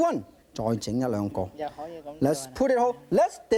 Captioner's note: speaking in foreign language